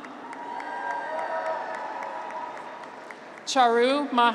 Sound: graduates cheer

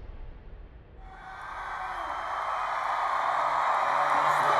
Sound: crowd cheering

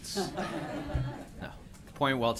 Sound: laughter

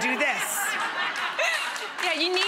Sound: audience laughing

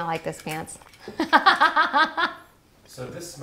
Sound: laughing

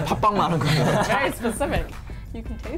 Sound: laughs; speaking in foreign language

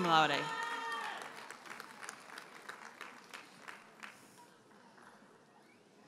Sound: audience cheers and applauds

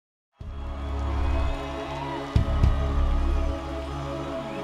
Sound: audience cheering

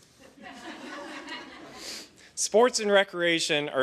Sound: laughter

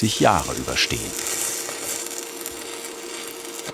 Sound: sizzling, crackling sound

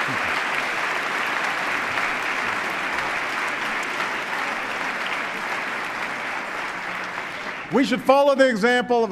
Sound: applause

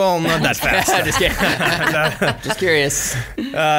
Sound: laughs

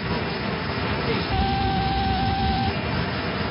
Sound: altimeter Setting Sound

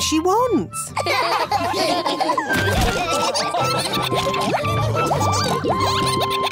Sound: all laughing

